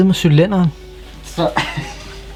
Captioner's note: just laughs